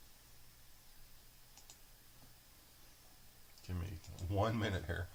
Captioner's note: mouse clicking